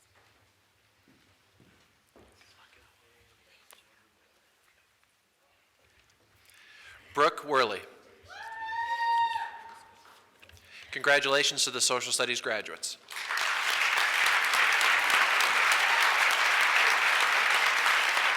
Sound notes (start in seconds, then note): 8.3 woman cheers; 13.0 audience applauds